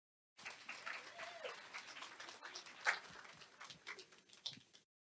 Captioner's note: audience applauds